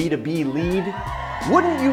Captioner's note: spectators cheering